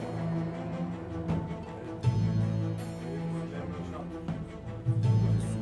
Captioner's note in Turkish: Kalabalık konuşma sesleri